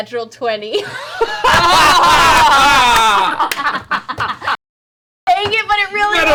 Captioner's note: all laugh